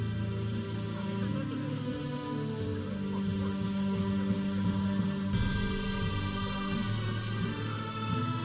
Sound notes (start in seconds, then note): 0.0 processional music; 1.3 audience chattering